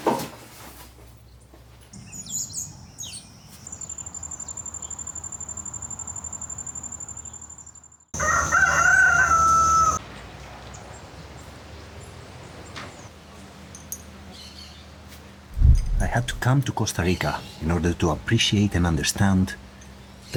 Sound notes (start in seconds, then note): 8.1 rooster crowing